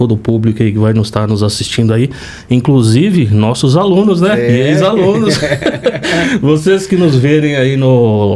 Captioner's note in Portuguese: risadas